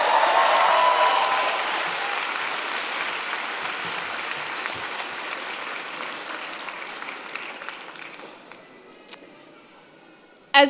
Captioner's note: applause